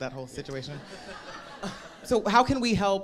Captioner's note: audience laughing